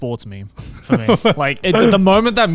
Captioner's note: laughing